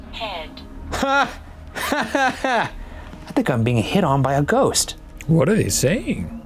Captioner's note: laughs